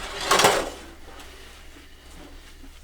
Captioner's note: silverware clangs